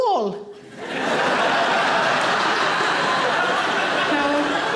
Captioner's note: audience laughing